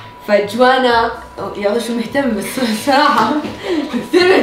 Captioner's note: sarcastically